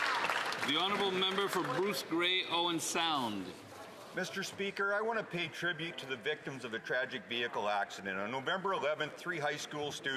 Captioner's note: some Applause